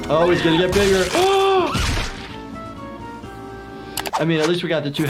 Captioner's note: suspenseful music; gasping